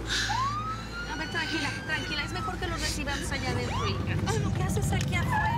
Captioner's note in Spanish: sirenas